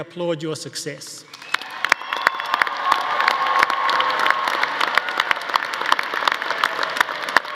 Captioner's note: audience applauding; audience cheering